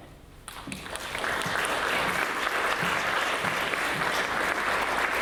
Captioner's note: audience applauds